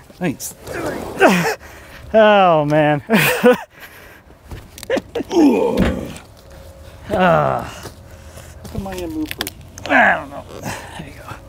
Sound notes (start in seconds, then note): 5.0 both grunting